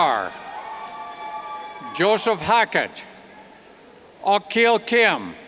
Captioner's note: cheers